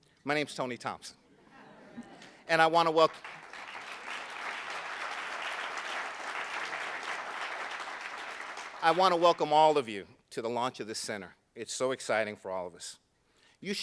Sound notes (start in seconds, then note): 2.7 applauding